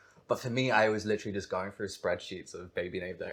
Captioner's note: none